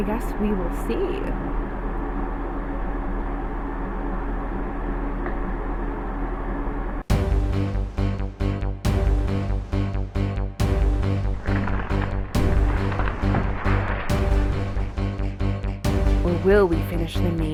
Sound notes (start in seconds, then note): 4.1 fan noises; 14.3 music intensifies